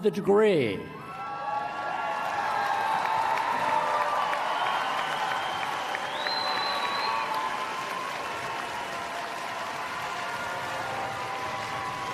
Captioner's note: applause